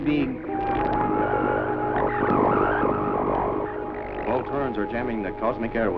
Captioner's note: interference blipping